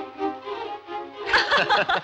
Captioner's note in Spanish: grita